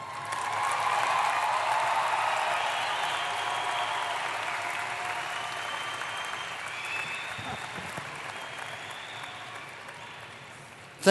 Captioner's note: applause